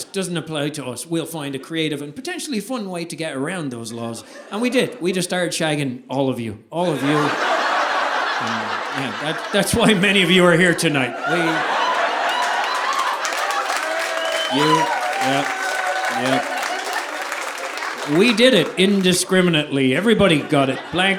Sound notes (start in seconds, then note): 7.8 audience laughing; 11.2 audience applauding; 11.6 audience laughing